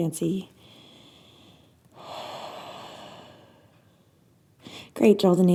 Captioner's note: inhales and exhales